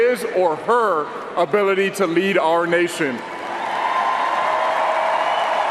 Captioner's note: cheering and applause